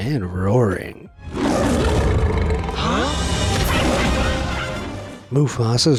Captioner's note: lion roars